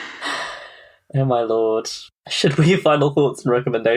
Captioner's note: laughs